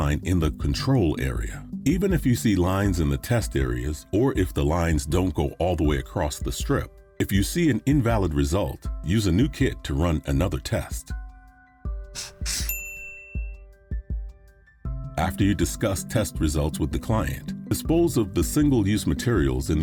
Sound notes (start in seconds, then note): 12.4 bell rings